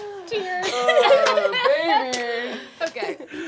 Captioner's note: laughing